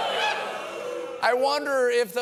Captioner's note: booing